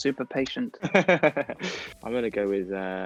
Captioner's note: Kit laughs